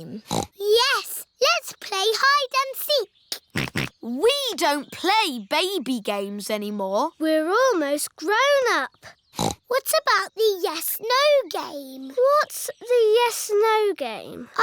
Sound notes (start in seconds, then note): 0.2 snorts; 3.2 snorting; 9.3 snorts